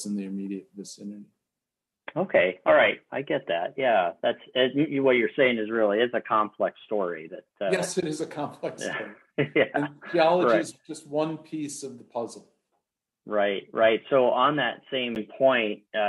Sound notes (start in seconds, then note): 8.8 laughs